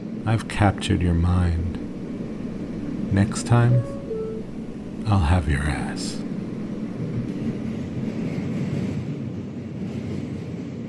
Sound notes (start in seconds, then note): 7.6 subway rumbling